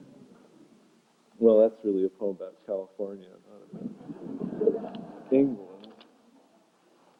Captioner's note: laughter